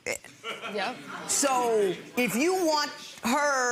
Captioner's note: audience laughs